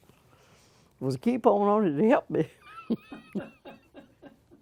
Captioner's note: laughter